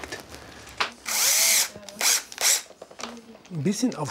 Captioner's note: drilling noises